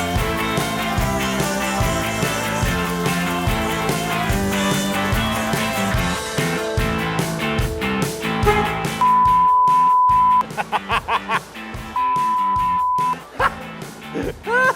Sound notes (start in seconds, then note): 8.3 horn blasts; 10.4 laughs